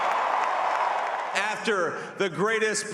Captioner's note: cheering